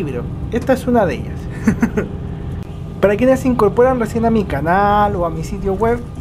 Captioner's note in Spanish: risas